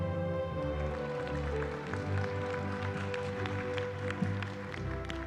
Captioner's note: applause